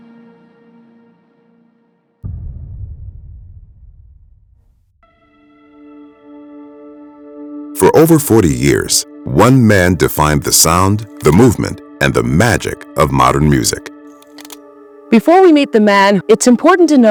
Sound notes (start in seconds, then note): 2.2 dramatic boom; 4.9 dramatic music